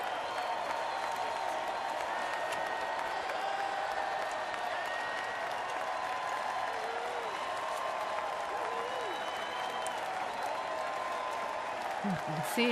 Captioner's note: applause